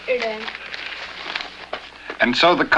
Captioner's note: newspaper rustling